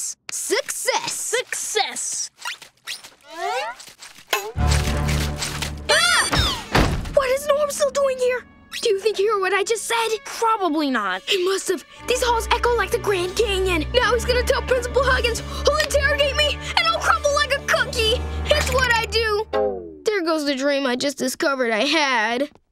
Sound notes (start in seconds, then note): 4.5 mopping; 5.9 screaming